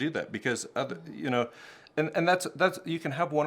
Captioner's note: stammers